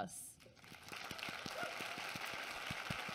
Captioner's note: applause